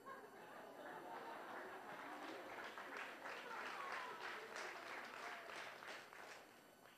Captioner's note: laughing, applause